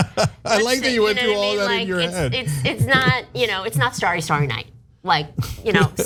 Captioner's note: laugh